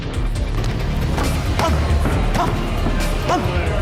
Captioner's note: grunting